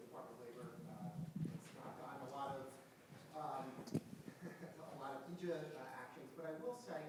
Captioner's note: chuckling